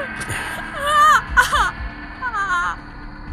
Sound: crying

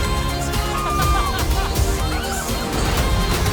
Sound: both laughing

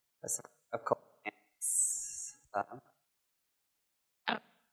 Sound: silence

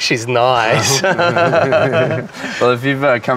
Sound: laughter

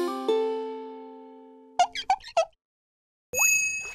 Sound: squeaking

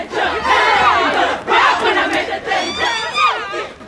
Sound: screaming

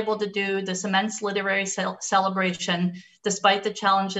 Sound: none

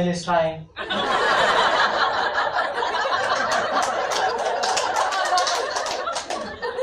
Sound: people laugh at the idea of a potato talking about pigeons

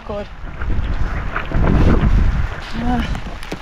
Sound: wind & rain

